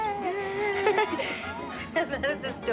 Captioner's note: chuckling